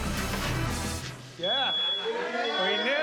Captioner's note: smoke alarm beeping; laughter